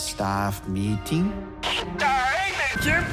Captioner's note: Engineer Joe on loudspeaker